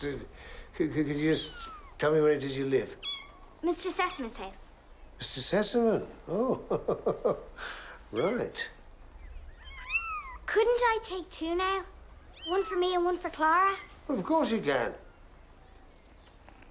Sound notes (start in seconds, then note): 6.2 chuckles; 9.5 mewing